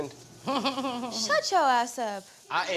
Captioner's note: chuckling